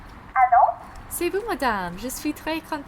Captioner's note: on phone